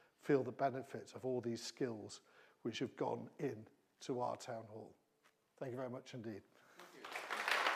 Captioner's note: applause